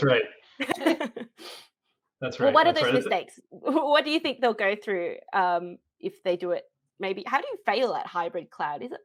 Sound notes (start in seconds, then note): 0.6 laughs